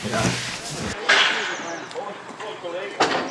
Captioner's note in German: Stimmen, Hämmern